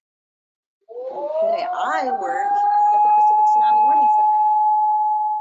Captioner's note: siren wails